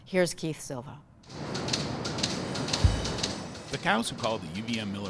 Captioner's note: ticking